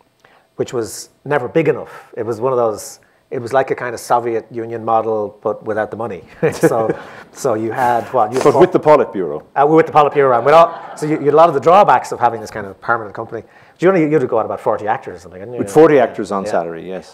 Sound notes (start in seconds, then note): 6.3 laughs